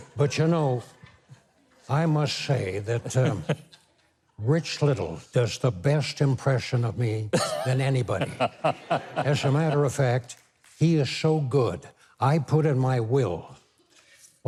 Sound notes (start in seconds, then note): 7.3 Mike and audience laughing